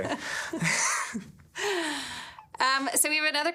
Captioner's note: laughing